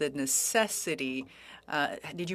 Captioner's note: speaking French